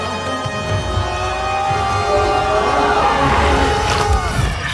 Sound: Maui yells

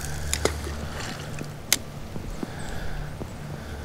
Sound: water splashes

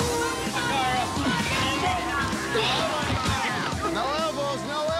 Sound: shouting and grunting

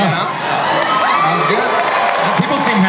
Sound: audience cheering

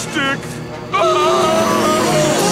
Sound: screaming

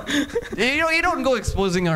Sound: laughing

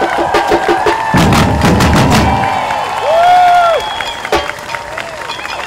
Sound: applause + CHEERING

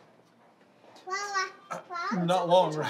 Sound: child babbles

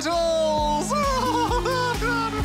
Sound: laughs

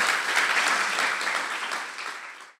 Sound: clapping

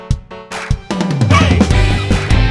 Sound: voiceover

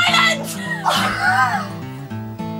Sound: laughs

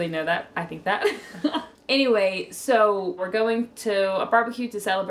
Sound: laughs

